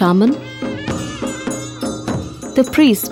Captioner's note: bells jingling; soft drumming; reed pipe music